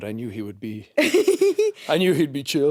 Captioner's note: chuckling